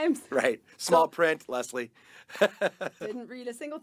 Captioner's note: laughing